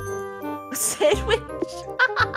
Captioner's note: laughing